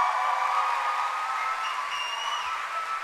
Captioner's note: cheering and applause